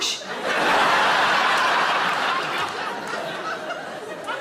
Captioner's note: audience laughs